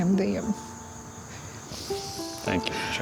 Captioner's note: sniffles